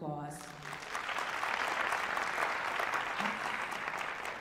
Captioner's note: applause